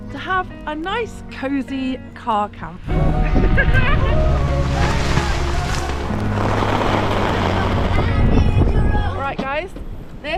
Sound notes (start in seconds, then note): 3.0 laughing; 4.5 wind; 7.9 rain & wind